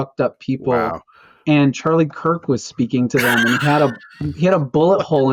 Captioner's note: laughter